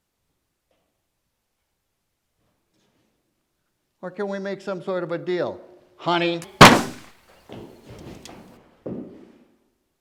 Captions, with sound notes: Or can we make some sort of a deal, honey? (gun fires)